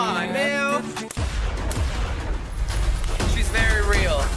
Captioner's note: gun firing